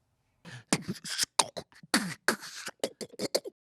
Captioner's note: beatboxing